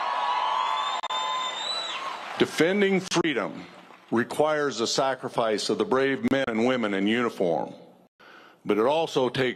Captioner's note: cheers and applause